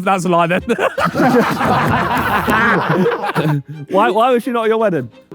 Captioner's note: group laughing